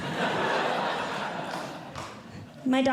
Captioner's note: audience Laughing